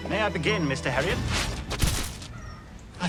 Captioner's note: dirt shifting; body impacting